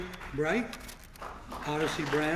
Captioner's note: applause